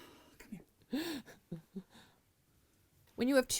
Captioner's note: laughing